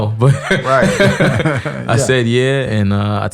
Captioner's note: both laughing